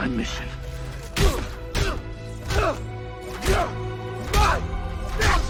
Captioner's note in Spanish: Steve y Bucky gruñen